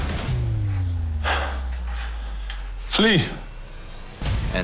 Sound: panting

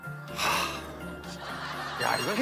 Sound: sigh

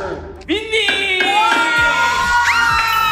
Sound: cheering

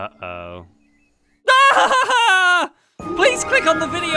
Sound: screams

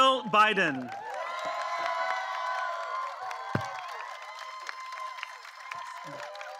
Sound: applause

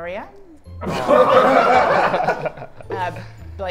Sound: Sidemen laugh

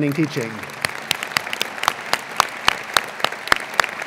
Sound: applause

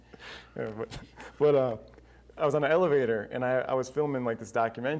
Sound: laughs

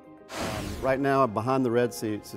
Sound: whooshing

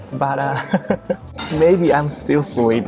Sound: chuckles

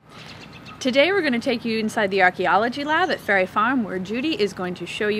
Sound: sound of birds chirping

